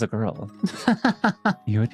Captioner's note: laughs